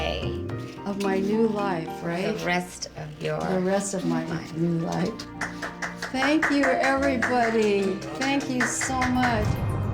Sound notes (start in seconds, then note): 5.3 clapping